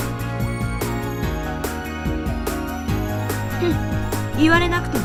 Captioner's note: laughs